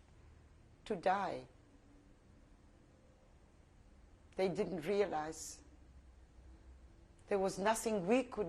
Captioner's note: pauses for 3 seconds